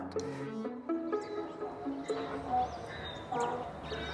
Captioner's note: burro whinnying